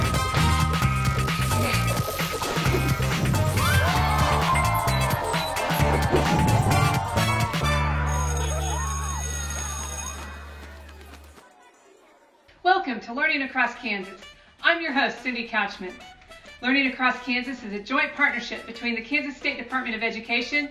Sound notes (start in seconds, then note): 3.2 people cheering; 3.7 upbeat music; 7.8 bell ringing